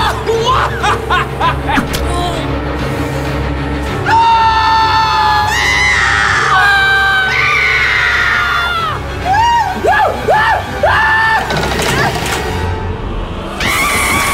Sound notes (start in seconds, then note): 4.0 screaming